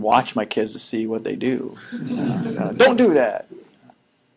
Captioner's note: laughing